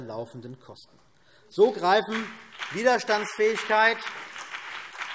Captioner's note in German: Beifall CDU und BÜNDNIS 90/DIE GRÜNEN